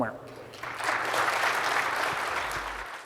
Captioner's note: applause